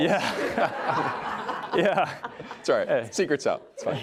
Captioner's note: audience laughs